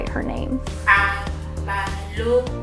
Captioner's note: non-english speech